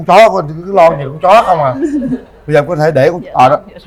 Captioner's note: laughs